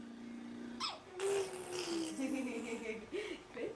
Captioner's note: baby blows a raspberry; laughing